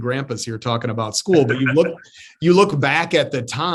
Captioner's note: laughs